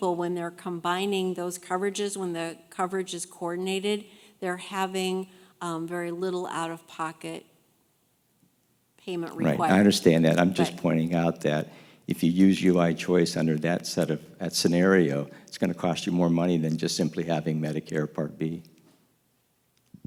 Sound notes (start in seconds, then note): 9.4 voiceover